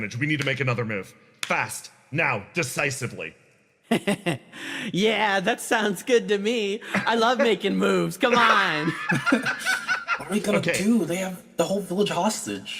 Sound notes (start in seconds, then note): 8.2 laugh